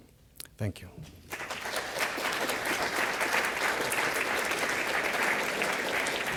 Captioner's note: audience applause